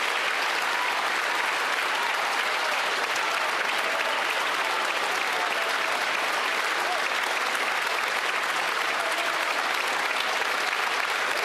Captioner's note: applause